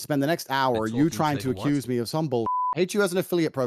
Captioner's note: beep